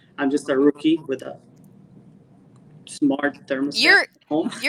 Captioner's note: laughs